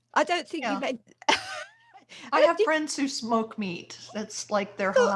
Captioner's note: laughter